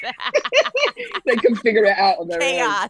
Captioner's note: laughing